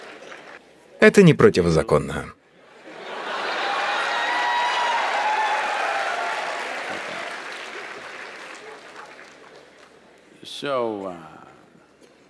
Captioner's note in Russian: смех / аплодисменты; Смеется; смех